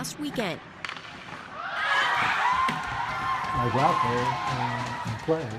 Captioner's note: nats cheers